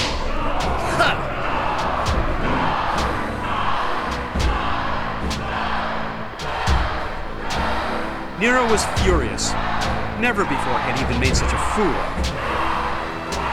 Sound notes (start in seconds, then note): 2.3 ਭੀੜ "ਮਰੋ" ਦਾ ਜਾਪ ਕਰਦੀ ਹੈ